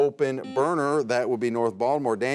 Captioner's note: buzzer beeps